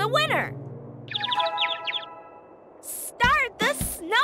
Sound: bird tweeting

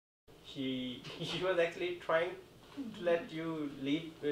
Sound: laughing

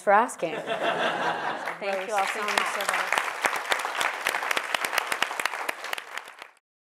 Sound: laugh; applause

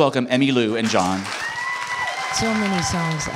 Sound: applause

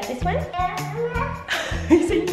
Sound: babbles

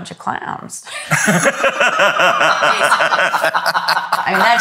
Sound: all laugh

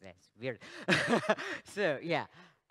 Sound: laughs

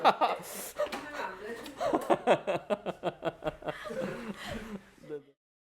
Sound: laughs

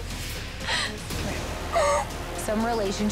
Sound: sobs

